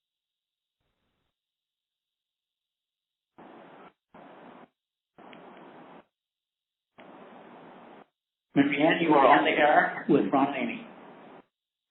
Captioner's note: silence